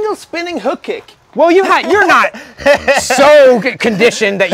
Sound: laughs

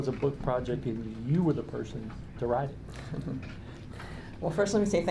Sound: chuckling

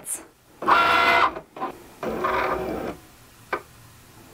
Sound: machine buzzing

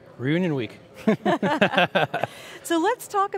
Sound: laugh

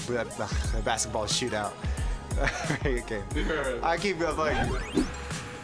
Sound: laughing

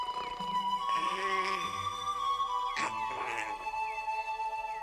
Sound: snoring in distance; murmuring

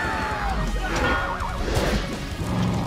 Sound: growling

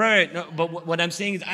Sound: none

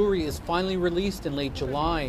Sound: speaking spanish

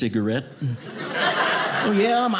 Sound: audience laughing

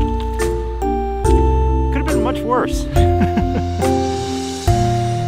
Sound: both laugh

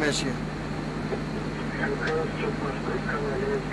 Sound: radio chatter

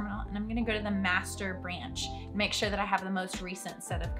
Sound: none

